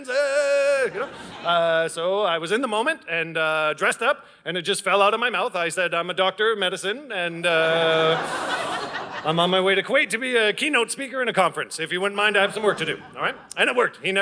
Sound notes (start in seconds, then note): 0.7 audience laughing; 7.5 audience laughing